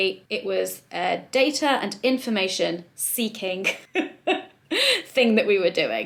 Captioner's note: laughs